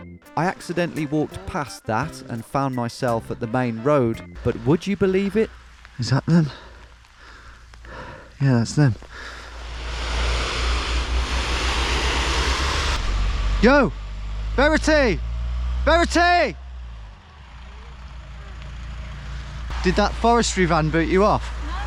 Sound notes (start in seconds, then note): 10.1 vehicle whirring